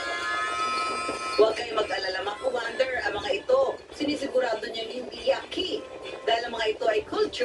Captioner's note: insects